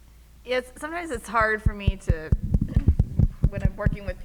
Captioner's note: audio distortion